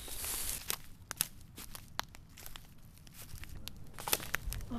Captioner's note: underbrush crunching